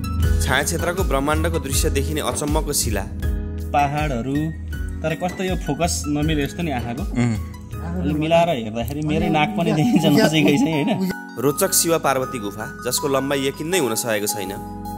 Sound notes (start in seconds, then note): 9.8 laughter